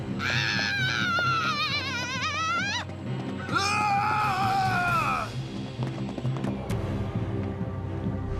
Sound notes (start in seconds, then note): 0.1 izzy shouts; 3.3 hatchet shouts